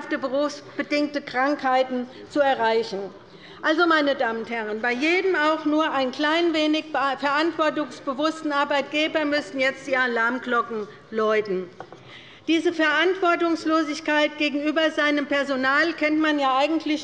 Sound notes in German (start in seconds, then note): none